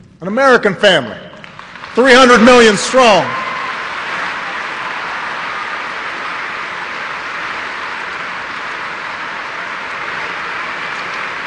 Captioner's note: applause